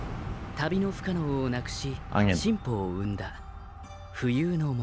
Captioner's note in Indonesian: none